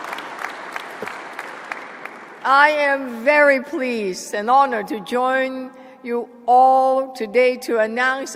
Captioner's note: applause